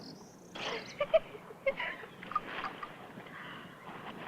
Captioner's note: laugh